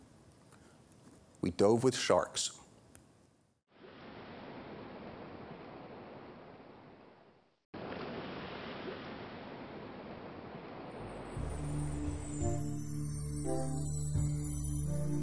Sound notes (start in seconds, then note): 4.5 ocean waves; 11.0 ambient chime music